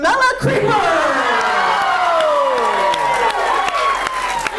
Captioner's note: audience cheers